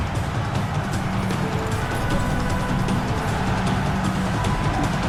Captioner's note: crowd cheering